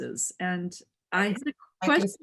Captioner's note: laughing